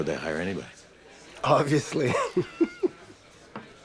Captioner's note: laughs